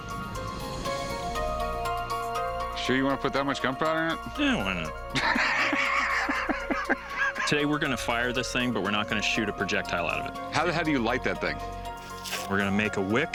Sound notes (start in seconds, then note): 5.1 Rick laughing